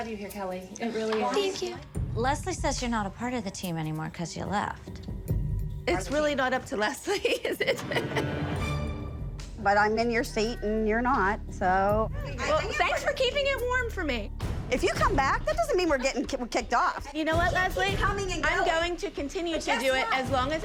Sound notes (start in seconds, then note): 7.0 laughing